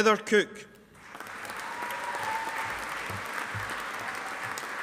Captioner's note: audience applauding